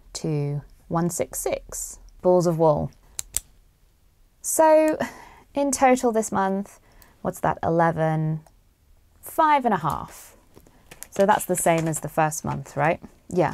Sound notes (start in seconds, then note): 3.2 pen clicks